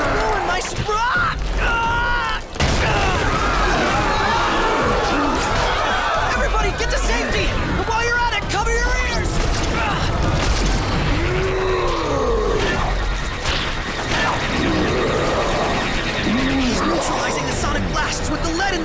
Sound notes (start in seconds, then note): 1.0 groans; 2.8 crash, screaming; 2.9 roars; 9.8 sonic waves humming; 10.9 groans